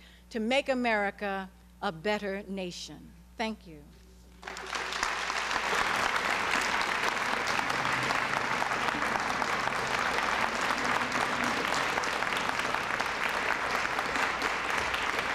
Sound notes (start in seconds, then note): 4.4 applause